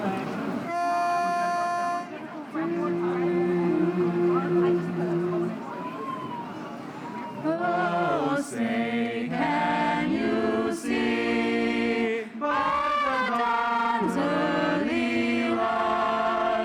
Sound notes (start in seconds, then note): 2.9 music students humming